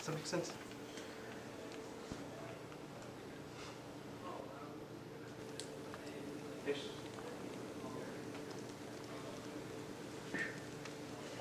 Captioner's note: murmured discussion